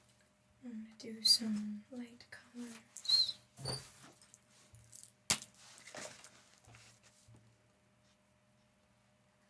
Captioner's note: silence; silence